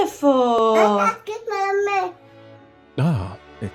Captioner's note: kid chatters